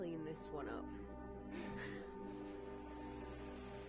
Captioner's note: Sophie and Jess chuckling